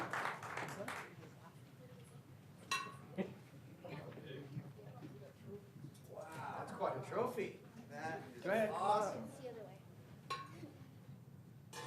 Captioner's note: applause